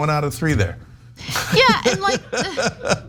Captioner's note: laugh